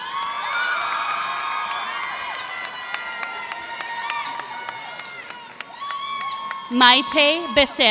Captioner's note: cheers and applause